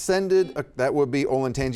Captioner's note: buzzer beeping